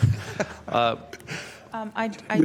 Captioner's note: laughter